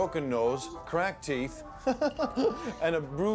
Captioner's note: laughing